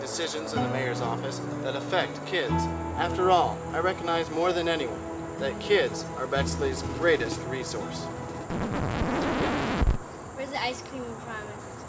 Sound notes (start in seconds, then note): 8.4 record scratch